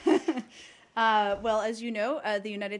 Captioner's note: laughter